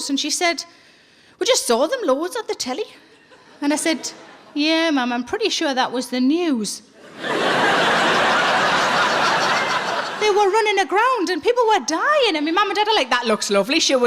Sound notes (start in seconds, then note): 7.0 audience laughing